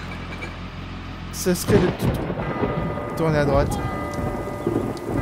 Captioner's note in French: Horloge